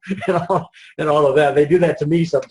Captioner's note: laughs